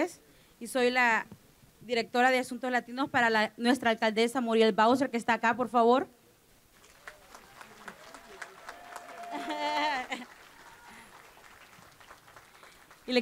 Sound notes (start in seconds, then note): 0.0 speaking spanish; 6.7 applause; 11.3 speaking spanish